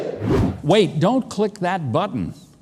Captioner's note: air whooshing